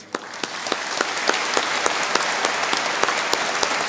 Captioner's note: applause